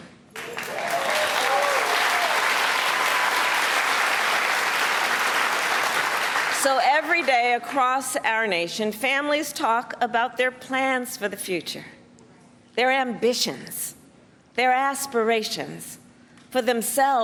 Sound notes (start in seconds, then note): 6.4 applause